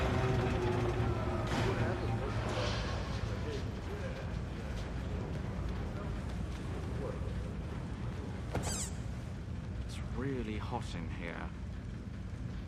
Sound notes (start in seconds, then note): 8.6 toy squeaks; 10.2 tinker